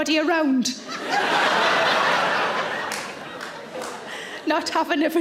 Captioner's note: audience laughs